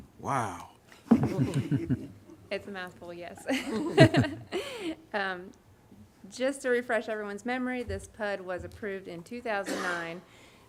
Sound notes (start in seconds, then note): 3.4 laughter